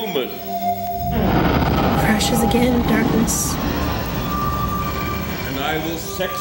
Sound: thunder

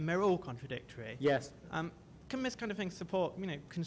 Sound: voiceover

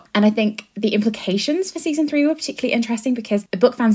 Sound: none

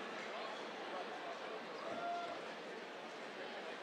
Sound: cheers

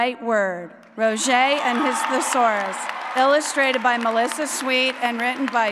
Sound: applause

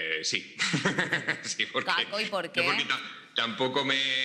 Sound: laughing

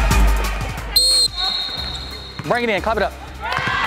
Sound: whistle

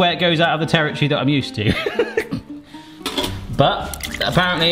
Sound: laughs

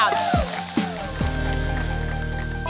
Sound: cheering

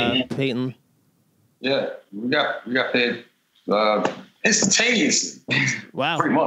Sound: laughter

